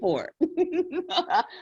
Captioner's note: laughs